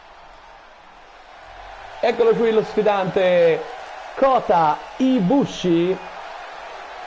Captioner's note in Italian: Applauso